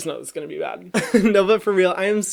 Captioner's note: laughs